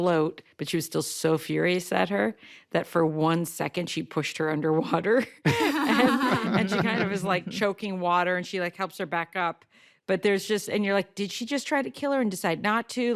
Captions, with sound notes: but she was still so furious at her that for one second, she pushed her under water. (LAUGHING) And she was kind of, like, choking water, and she helps her back up. But there's just, and you're like, "Did she just try to kill her and decide not to?